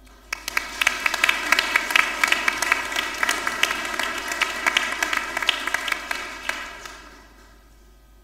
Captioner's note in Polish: oklaski